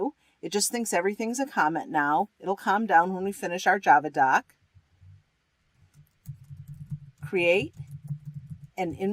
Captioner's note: typing